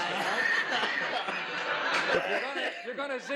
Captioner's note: laughter